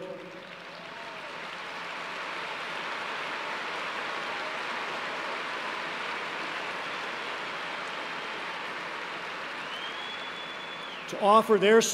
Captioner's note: applause